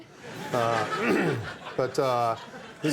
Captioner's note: audience laughing; Bill clears throat